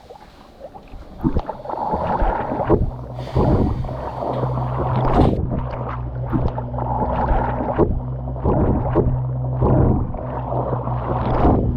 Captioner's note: underwater sounds